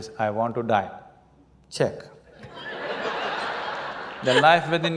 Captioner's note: laughter